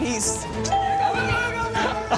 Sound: ding

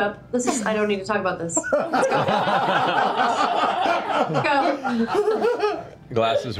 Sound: laughter

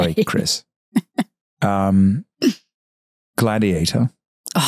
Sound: Candace laughing

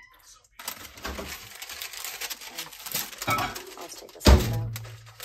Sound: parchment paper crinkling

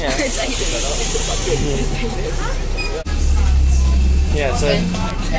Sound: general Chatting

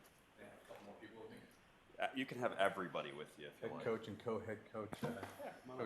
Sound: laughter

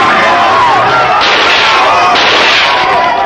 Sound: gunshots

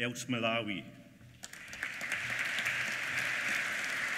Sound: applause

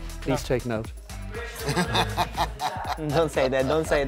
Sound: laughing

